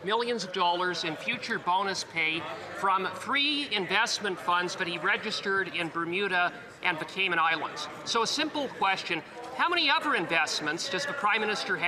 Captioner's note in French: voix de l'interprète